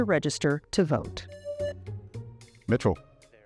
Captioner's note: presses buzzer